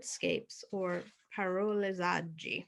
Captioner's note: speaking foreign language